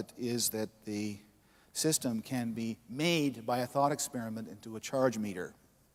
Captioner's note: none